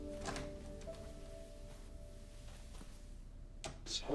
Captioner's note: door clicking